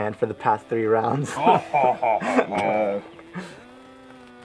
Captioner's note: Zakhan laughs